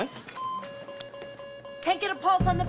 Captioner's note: loud beeping